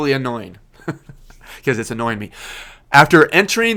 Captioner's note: laughs